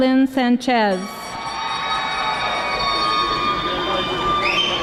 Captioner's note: audience applauding